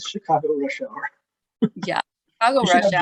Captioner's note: laughter